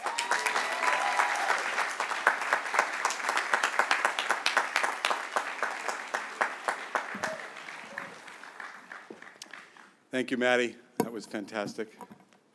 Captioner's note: applause